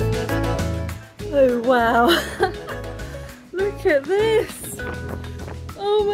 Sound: laughing

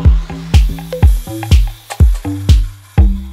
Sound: upbeat music; saw whirs

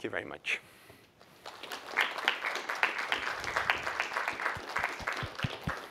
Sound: applause

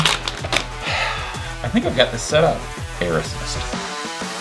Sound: sighs

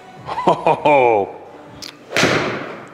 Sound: laughs; ball thuds

